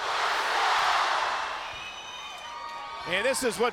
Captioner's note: crowd cheering